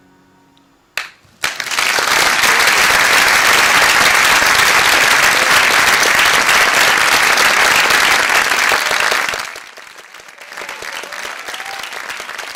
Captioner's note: applause